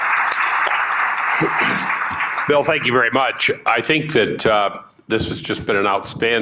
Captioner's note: applause